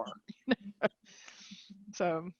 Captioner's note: chuckling